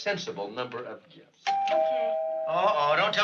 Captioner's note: doorbell rings